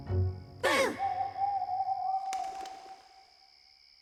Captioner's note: hooting